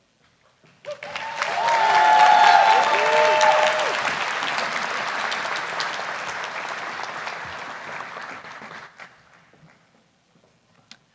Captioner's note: cheering